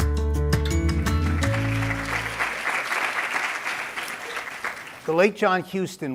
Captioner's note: applause